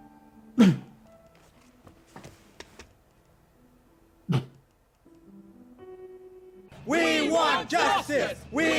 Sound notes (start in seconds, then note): 0.6 sobs